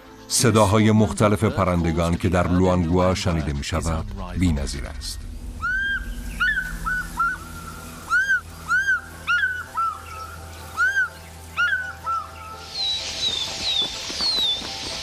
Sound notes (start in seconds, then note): 5.4 chirps; 12.8 all chirping